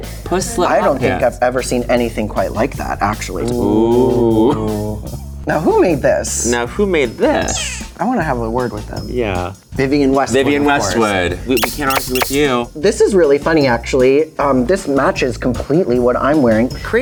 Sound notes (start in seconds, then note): 11.6 spring bouncing